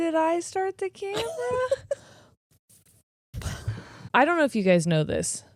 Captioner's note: laughing